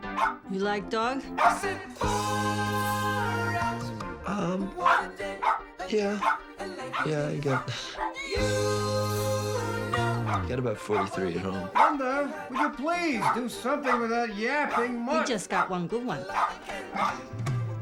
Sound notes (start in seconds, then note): 0.0 dog barking; 2.1 singing; 4.8 singing; 6.8 singing; 9.1 singing